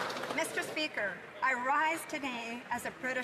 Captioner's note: some Applause